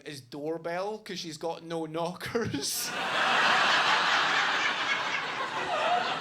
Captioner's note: audience laughing